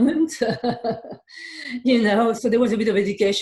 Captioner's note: laughing